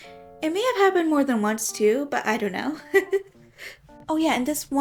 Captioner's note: giggles